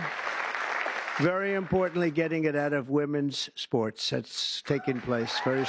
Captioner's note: cheers and applause